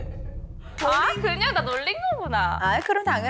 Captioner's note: scene transition sound effect